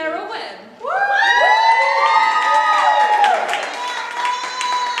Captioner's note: audience cheers